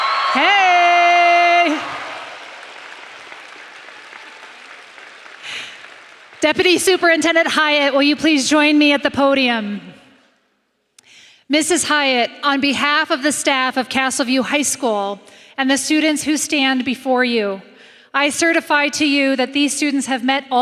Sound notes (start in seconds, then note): 0.0 applause; 6.5 cheering and applauding